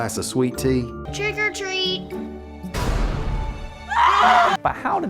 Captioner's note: screaming